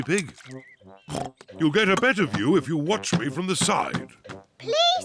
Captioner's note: oinks